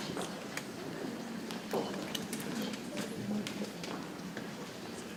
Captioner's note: people chattering softly